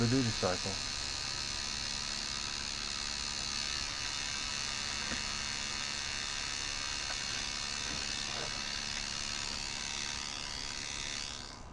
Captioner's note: buzzing sound